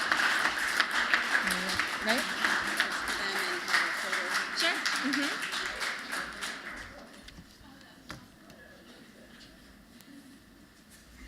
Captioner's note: applause